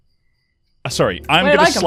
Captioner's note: laughs